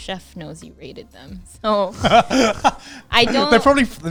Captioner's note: laughing